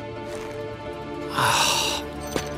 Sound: sighing

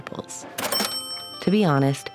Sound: cash register ringing

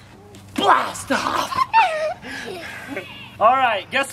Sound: laughs

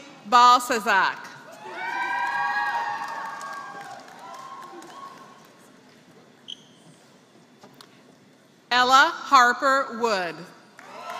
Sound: applause; applause

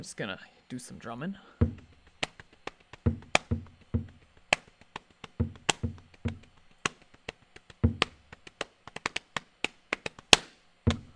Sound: starts to drum on the desk

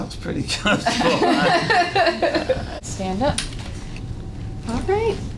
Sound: laugh

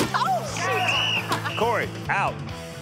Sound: whistle blows

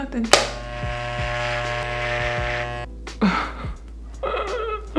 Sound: machine whirring

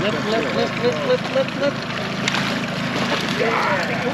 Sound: fish splashing; whooping

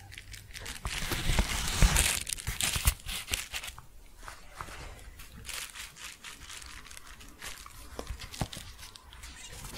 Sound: shuffling and crinkling

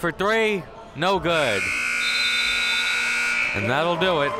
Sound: buzzer sounding

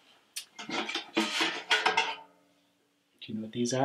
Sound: bucket clangs

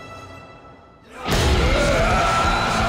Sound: crowd yelling

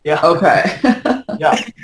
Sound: laughs

